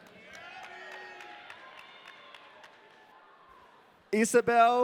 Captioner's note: audience cheering